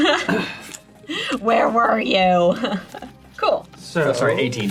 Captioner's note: laughing